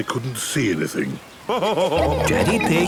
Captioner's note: laughing